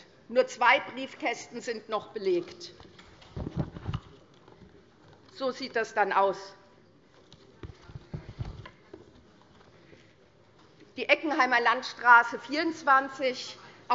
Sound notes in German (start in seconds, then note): none